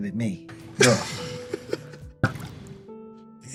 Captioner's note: laughter